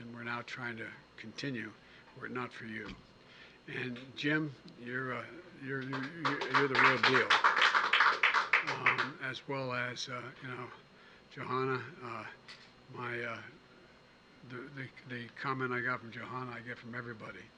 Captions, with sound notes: we're now trying to continue were it not for you. And, Jim, you're -- (applause) -- you're the real deal. As well as, you know, Jahana. My -- the comment I got from Jahana I get from everybody: